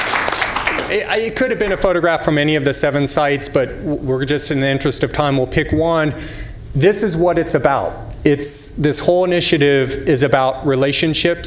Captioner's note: applause